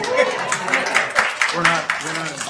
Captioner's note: attendees applauding